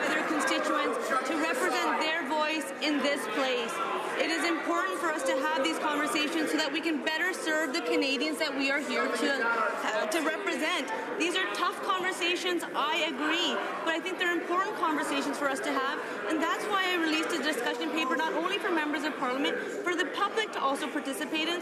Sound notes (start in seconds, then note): 3.5 shouting